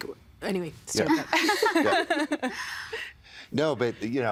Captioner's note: laughing